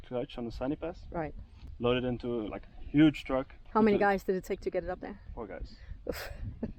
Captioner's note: laughing